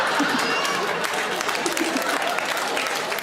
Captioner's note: audience laughs and applauds; Sarah giggles; audience applaud